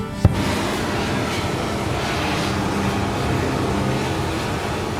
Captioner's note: blowtorch running